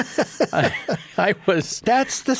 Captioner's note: laughs